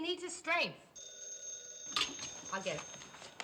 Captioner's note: phone rings